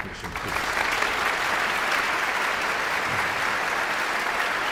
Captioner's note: audience applauds